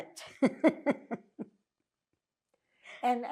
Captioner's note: laughing